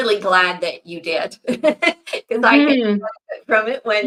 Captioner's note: laughs